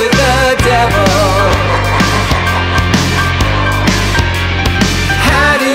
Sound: ha ha ha ha ha

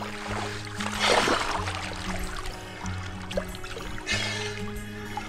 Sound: splashing; snorkel spraying

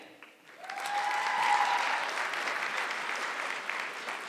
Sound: audience clapping

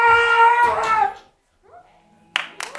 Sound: kreon screams

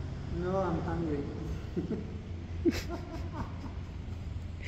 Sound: evil laugh

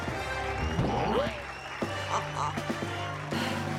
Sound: applause; chuckling

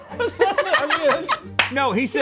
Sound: both laughing; laughing

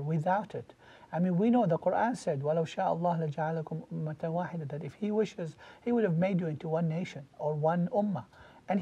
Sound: Arabic

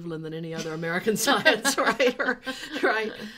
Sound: laughing

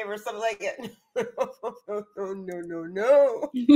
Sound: laughs

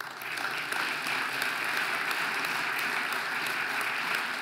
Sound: audience applauding

